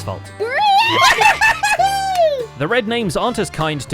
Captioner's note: cheers